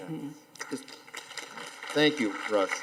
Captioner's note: audience applauding